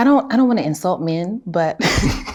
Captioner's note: chuckles